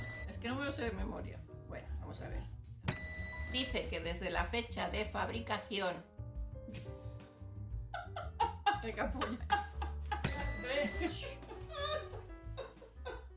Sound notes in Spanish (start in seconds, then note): 0.0 sonido: piiii; 2.9 sonido: piiii; 7.9 sonido: risa de mi hermana en off; 10.2 sonido: piiii; 10.9 sonido: shhhh; 11.6 sonido: risa de mi hermana